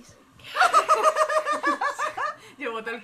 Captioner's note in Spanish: risas